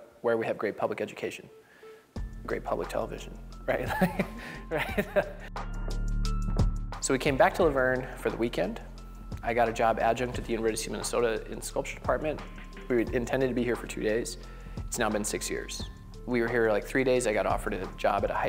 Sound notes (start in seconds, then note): 3.9 laughs